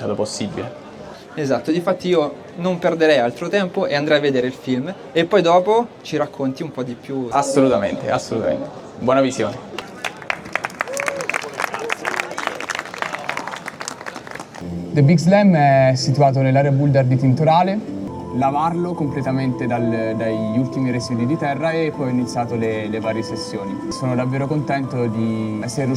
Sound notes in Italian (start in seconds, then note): 13.8 Applauso